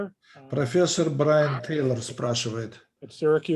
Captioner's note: translator speaking Russian language